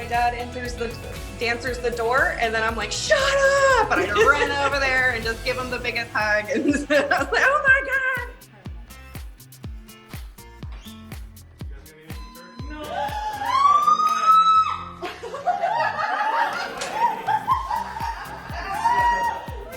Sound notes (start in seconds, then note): 12.8 screams; 14.9 laughter